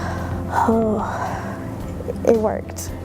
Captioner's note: exhales in relief